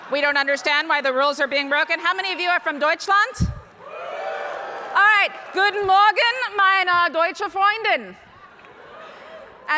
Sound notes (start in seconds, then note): 3.8 audience cheering; 5.8 speaking foreign language